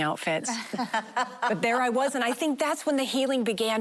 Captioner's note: laughing